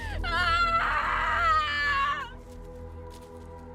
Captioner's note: Estrid crying